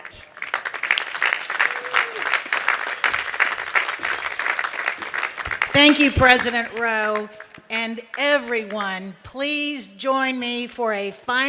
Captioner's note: applause